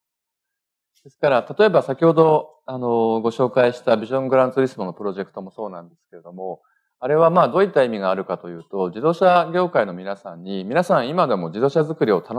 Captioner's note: speaking japanese